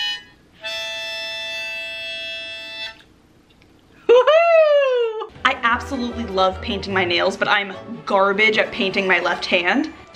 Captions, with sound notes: (cheering) I absolutely love painting my nails, but I am garbage at painting my left hand.